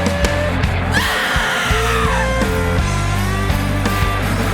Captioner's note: screams